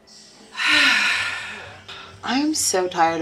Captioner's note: sighs